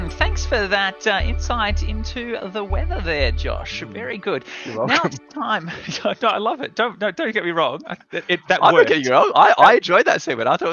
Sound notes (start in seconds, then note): 4.6 chuckles